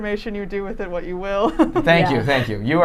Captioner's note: laughing